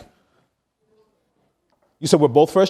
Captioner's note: audience member speaking quietly